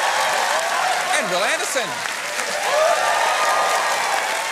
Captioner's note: cheering and applause